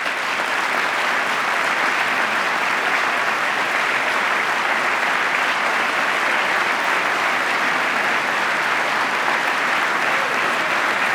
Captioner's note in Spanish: aplauso